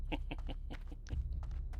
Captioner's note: laughing